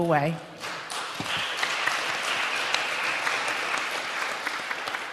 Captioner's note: applause